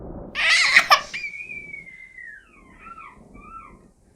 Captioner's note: baby crying